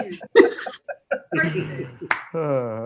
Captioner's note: laughs